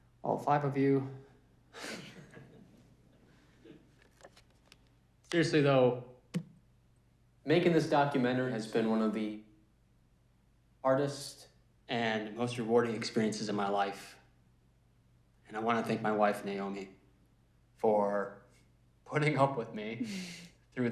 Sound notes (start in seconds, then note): 1.8 audience chuckles